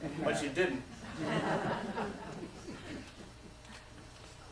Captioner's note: laughter